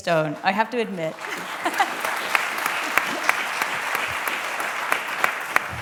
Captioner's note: applause